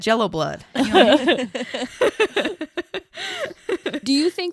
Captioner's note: everyone laughs